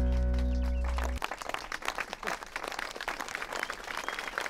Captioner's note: crowd applauds